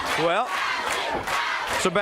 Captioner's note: crowd cheering